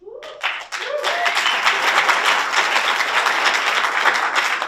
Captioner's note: audience applauds